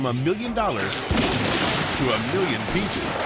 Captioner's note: yacht crumbling